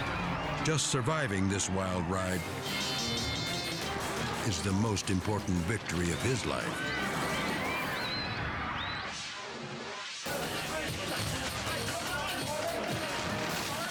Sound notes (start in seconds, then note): 6.4 onlookers screaming; 9.1 screen whooshing